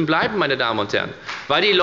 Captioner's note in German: Beifall bei der FDP